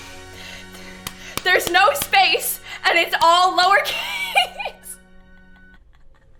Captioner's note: claps